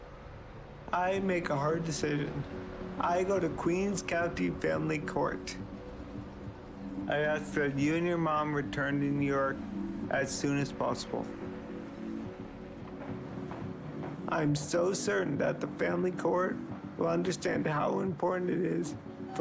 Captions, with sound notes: I make a hard decision, I go to Queens County Family Court. I ask that you and your mom return to New York as soon as possible. (subtle music) (footsteps) I am so certain that the family court will understand how important it is